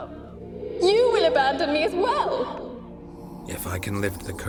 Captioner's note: tearfully